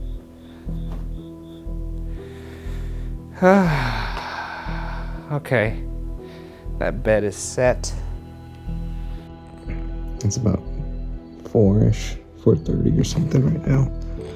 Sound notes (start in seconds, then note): 0.1 eerie music; 3.3 sighs